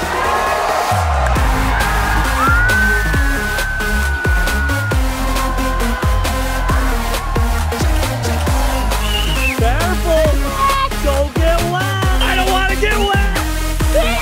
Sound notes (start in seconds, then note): 0.3 crowd cheering; 0.3 upbeat electronic music; 2.0 shrieks; 10.6 shrieks; 13.4 kid shrieks